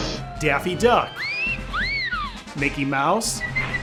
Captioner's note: door slams; Daffy whistles; Mickey whistling